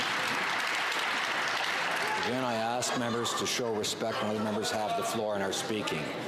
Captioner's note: some Applause